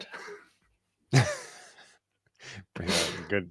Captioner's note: laughter